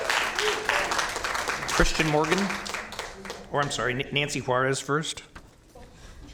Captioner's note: applause